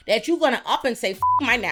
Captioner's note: beep